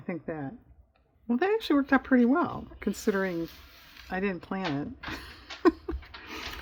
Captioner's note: laughs